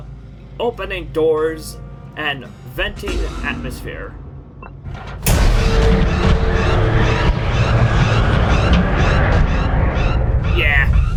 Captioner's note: loud beeping